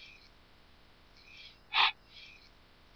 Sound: breathes quickly

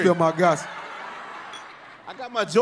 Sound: glasses clink

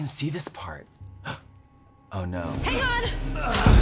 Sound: gasp; intense rock music

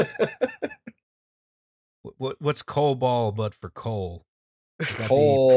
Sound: laughter

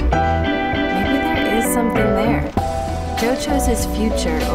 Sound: voiceover

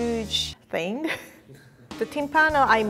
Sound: chuckles

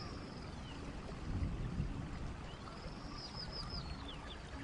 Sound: birds chirping

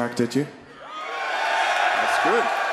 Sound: audience cheering

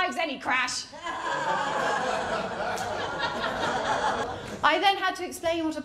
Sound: laughter

